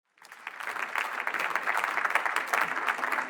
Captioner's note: applause